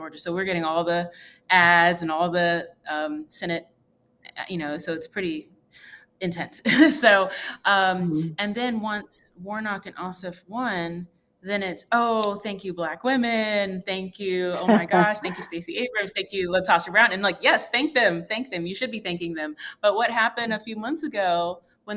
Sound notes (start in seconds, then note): 7.2 laughs